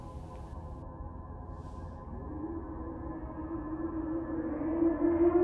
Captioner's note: voices howling